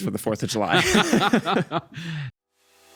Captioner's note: both laughing